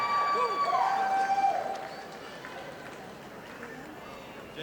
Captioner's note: audience applauding